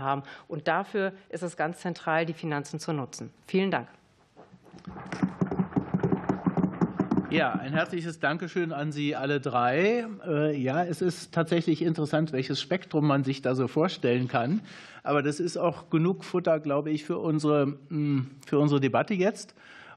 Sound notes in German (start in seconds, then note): 7.8 Beifall